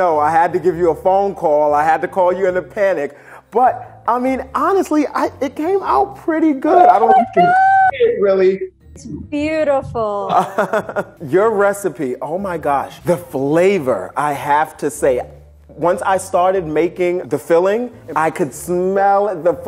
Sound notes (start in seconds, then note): 10.2 laughing